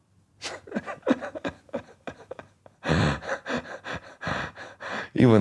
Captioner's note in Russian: Смеётся